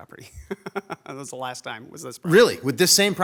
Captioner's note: chuckles